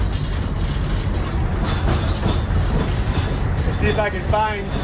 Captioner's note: metal rattling